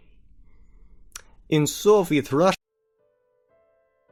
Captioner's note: Russian accent